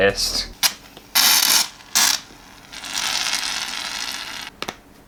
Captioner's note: shaving Foam Spluttering